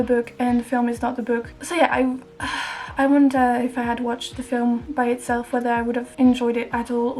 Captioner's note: sigh